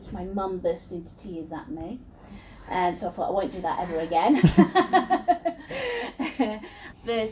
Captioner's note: laughs